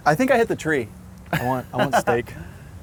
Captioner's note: laughs